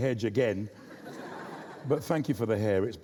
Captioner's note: audience laughs